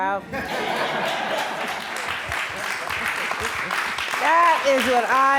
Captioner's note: applause